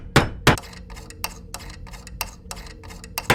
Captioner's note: hammering; screwdriver sounds